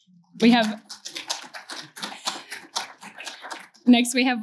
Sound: applause

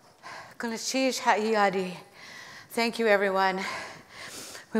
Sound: foreign speaking

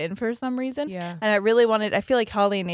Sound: none

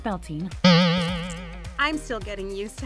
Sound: spring boings

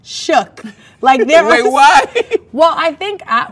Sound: laughs

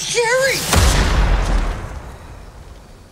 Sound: gunshot

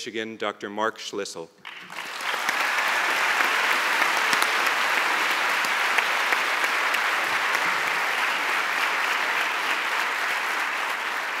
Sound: applause

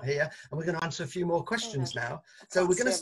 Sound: speaks softly

